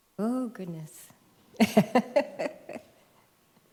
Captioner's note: laughs